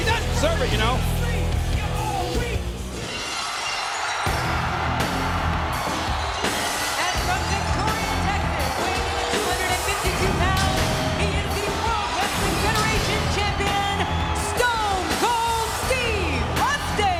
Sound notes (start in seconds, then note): 3.1 glass shatters; 4.0 audience cheers